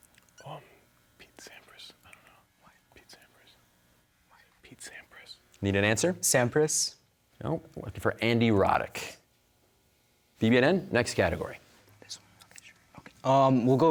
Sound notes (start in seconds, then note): 0.3 whispering; 11.9 whispering